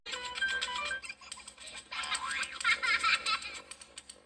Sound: kid laughing

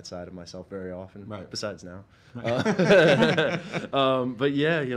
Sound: laughs

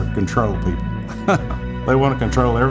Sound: laughs

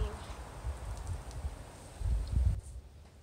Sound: wind

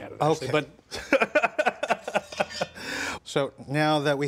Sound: laughing

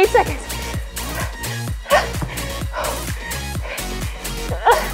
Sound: heavy breathing

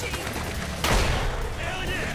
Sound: gunshot

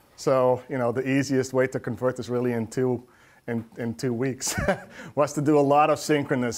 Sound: laughs

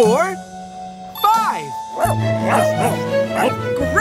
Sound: barking

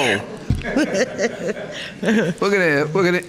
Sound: laughter

